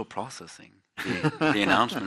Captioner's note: laughs